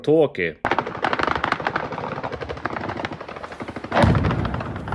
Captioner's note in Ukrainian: автоматні черги; вибух